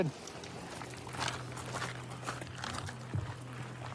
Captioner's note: footsteps crunching